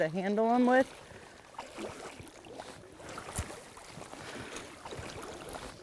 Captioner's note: water splashing